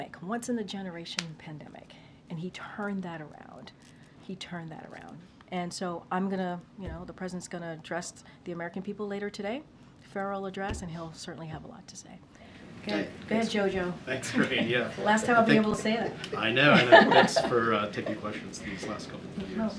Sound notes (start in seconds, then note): 14.2 laughter; 16.6 laughs